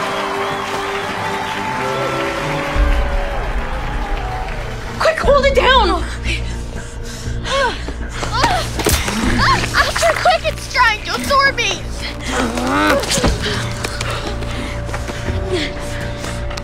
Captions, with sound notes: - Quick! Hold it down! - Ah! Astrid, quick! It's trying to absorb me! [Grunting]